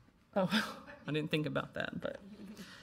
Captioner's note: laughing